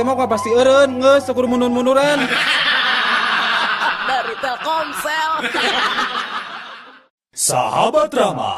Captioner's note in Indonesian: tertawa